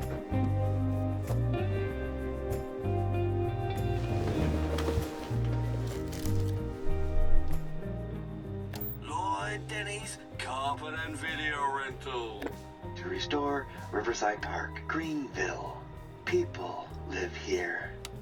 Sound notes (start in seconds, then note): 0.1 soft music continues; 4.7 bed rustles